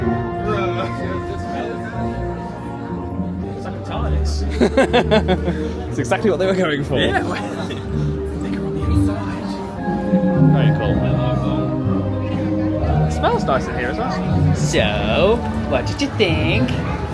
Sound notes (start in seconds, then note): 4.5 laughs